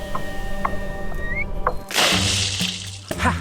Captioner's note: whistling, splash!